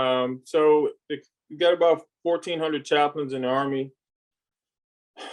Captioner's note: sigh